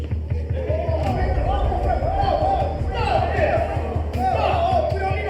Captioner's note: people yelling